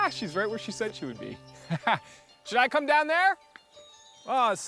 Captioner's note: laughs